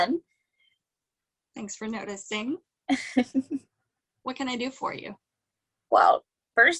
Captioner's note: chuckles